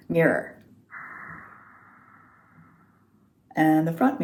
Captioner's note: haa sound on inhale with mouth open